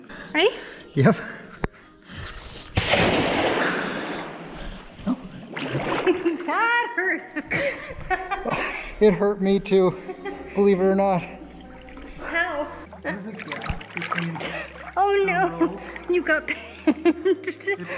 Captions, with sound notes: Ready? Yep. That hurt! [Laughs] It hurt me too, believe it or not. How? There's a gab between the rope... Oh, no! And you got pinched... [Laughter]